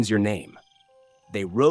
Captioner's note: pause